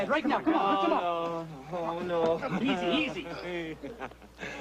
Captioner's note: laughing